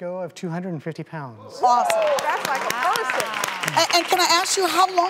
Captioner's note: audience cheers and applause